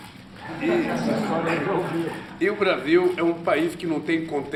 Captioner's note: laughter